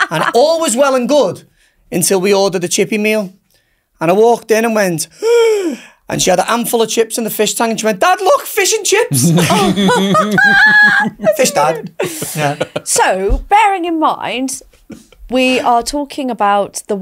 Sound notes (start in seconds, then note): 5.6 gasps; 9.1 both laughing loudly